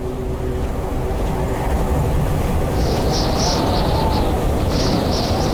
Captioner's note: blizzard increases